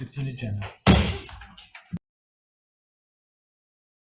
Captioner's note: gavel bangs